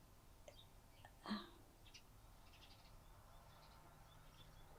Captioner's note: crying